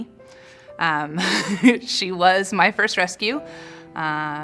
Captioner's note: laughs